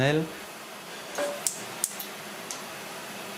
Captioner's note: cracking, hissing